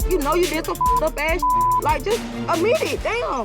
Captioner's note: beeping